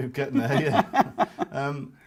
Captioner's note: both laugh